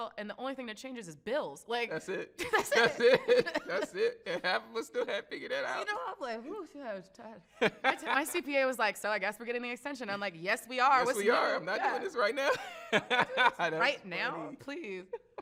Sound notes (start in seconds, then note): 2.0 both laugh; 7.6 laughs; 12.3 laughs